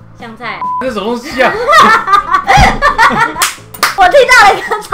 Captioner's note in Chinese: 拍手